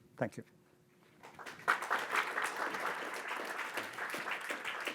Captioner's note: audience clapping